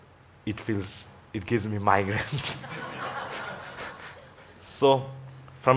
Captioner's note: laughing